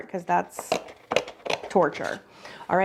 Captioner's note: none